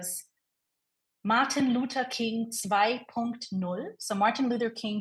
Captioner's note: speaking in foreign language